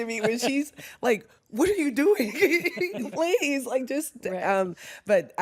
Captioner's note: laughs